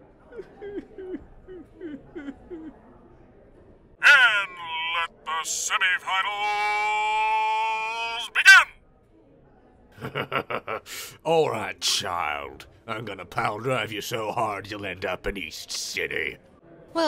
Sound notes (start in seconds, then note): 0.1 KRILLIN sobs quietly; 10.0 UDO chuckles sinisterly